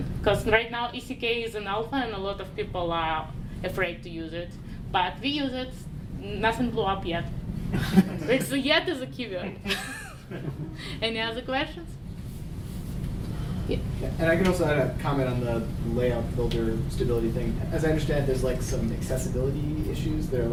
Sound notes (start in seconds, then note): 7.7 audience chuckling; 9.4 chuckling